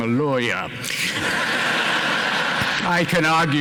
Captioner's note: laughter